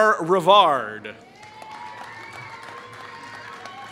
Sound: applause

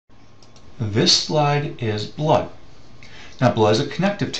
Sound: voiceover

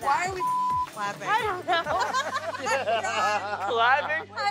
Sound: beep; cast laughs

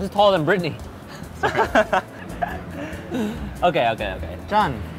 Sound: laughs; speaking Korean

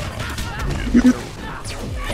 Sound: clears throat

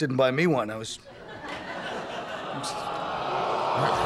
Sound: audience groaning

